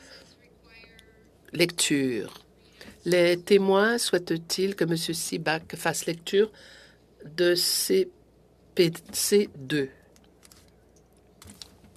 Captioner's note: speaking French